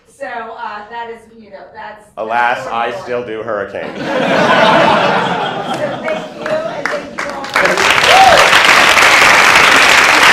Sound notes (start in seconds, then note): 3.8 laughter; 5.6 applause